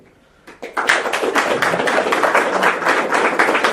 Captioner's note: potlesk